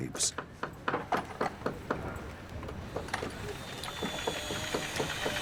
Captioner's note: tools hammering continues